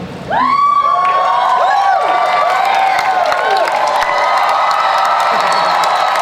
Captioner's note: audience cheers